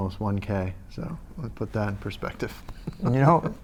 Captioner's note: laughs